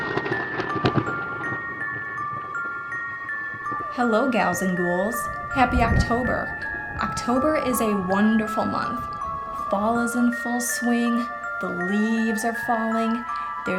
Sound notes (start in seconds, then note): 5.3 thunder